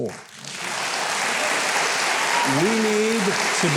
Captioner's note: applause